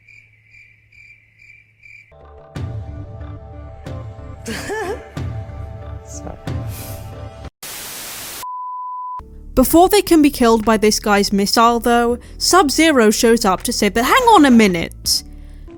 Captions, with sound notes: [woman chuckles] “Sorry.” [static] Before they can be killed by this guy’s missile though, Sub-Zero shows up to save the– hang on a minute!